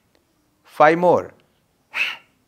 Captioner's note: short sharp exhales